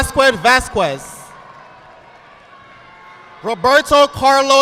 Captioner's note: audience applauding